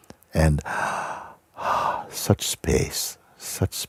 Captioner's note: Tiefes Einatmen und Ausatmen